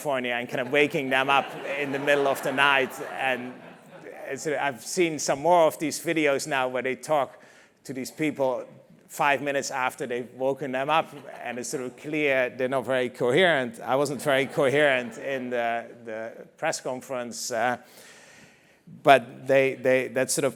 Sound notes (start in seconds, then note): 0.6 laugh